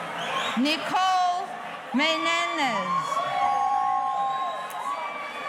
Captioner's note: audience cheering; audience cheering